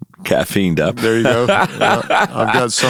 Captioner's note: laughing